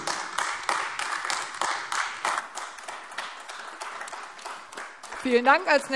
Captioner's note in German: Beifall AfD